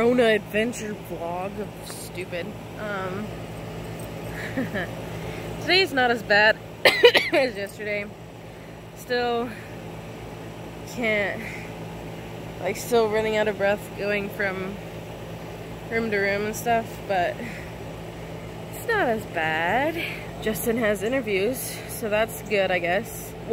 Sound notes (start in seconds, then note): 6.8 coughs